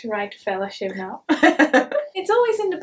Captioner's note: laughs